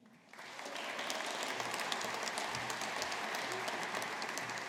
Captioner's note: audience applauding